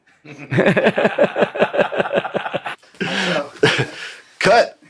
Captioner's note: laughs